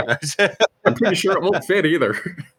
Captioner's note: laughs